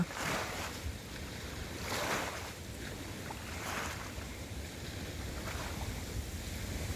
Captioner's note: waves lapping loudly